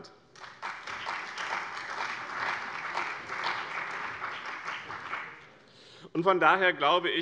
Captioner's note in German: Beifall bei dem BÜNDNIS 90/DIE GRÜNEN und der CDU